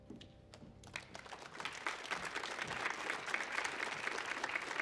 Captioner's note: audience applauds